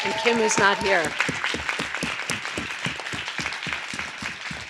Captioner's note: audience applause